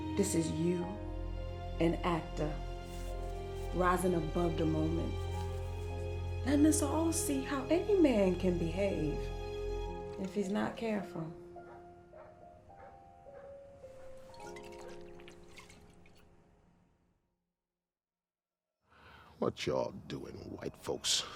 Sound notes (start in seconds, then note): 11.6 dog barking in distance